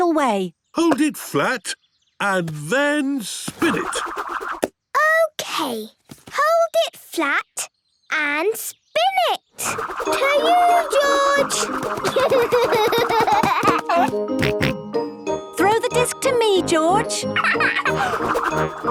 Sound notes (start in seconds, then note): 10.4 giggling; 14.4 snorting; 17.3 laughing